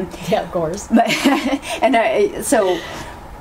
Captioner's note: laughs